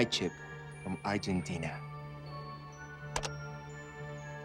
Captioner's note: beeping